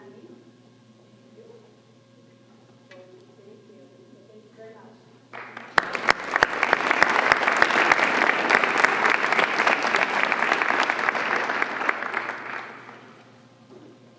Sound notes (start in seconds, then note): 5.3 applause